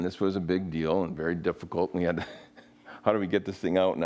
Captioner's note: laughs